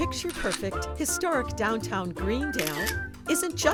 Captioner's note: camera snapping photo